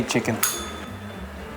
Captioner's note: bell rings